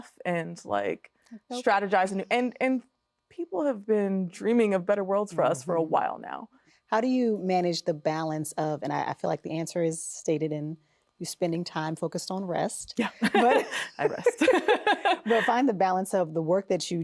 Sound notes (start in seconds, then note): 13.0 both laughing